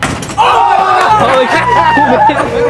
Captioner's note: all shouting and laughing